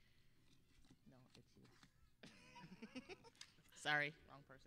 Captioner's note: giggling